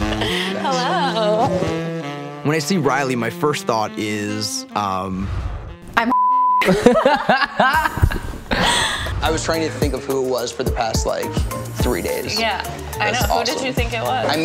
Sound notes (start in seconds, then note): 0.0 giggles; 6.0 beep; 6.6 both laugh